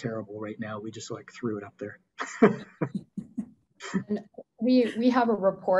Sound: laughs

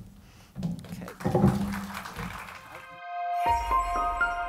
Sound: crowd applause

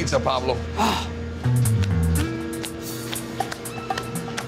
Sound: sighs

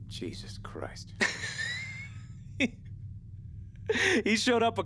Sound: Rylan laughing

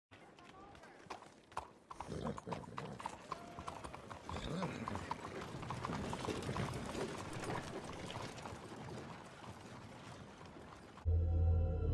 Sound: horse click clacking noises or some bs

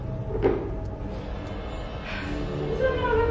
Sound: thud

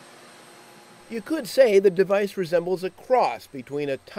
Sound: voiceover

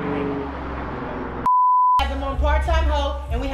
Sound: beeps

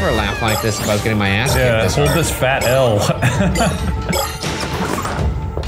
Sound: laughs

